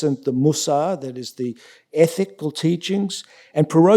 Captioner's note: yiddish